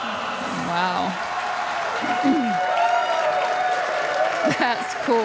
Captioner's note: audience applauding; audience cheering